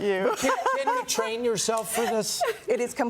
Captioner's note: laughter